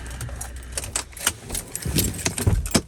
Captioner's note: engine turns off